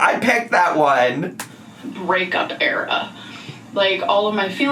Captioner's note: none